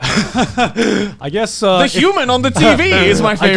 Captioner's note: laughs